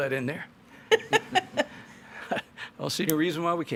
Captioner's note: both laughs